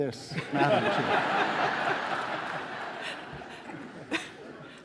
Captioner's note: audience laughing